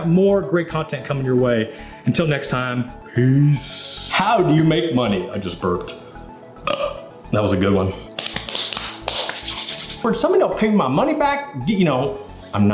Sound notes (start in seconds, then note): 6.5 burps; 8.1 slapping noises